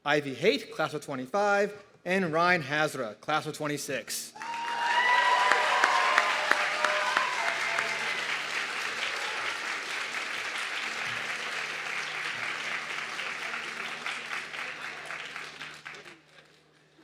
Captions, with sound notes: Ivy Hate Class of '25, and Ryan Hara, class of '26. (audience clapping and cheering)